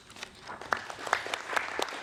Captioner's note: applause